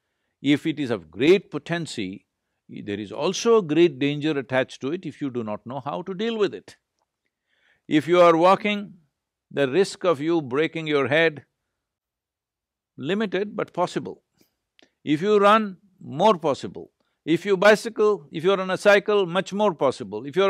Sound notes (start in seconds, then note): none